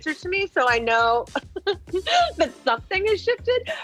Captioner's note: laughing